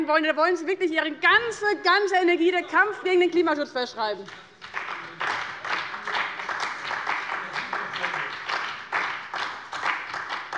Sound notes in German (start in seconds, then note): 4.2 Beifall bei dem BÜNDNIS 90/DIE GRÜNEN und der CDU